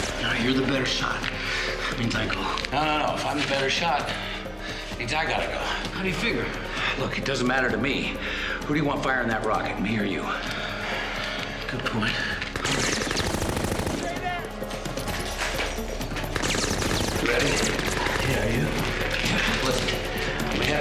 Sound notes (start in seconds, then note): 12.6 gunfire resumes